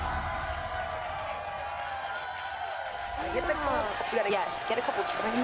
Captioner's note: crowd cheers